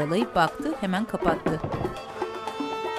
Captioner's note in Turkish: Kapı kapanma sesi